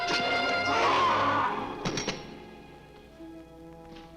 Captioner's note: guard screams